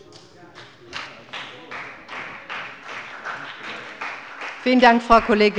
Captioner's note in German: Beifall bei dem BÜNDNIS 90/DIE GRÜNEN und der CDU